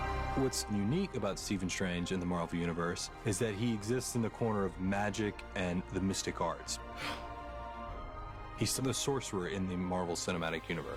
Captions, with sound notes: What's unique about Stephen Strange in the Marvel Universe is that he exists in the corner of magic and the mystic arts. (EXHALES SHARPLY) He's the sorcerer in the Marvel Cinematic Universe.